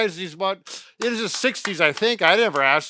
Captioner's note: clapping hands